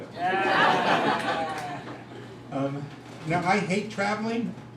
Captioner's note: crowd laughs